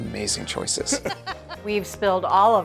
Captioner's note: both laughing